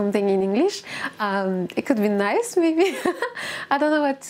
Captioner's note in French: rires